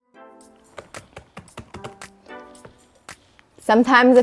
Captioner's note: typing